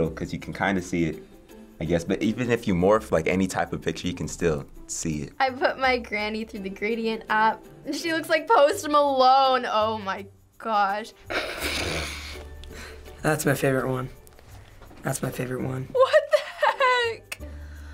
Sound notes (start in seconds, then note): 11.2 snickers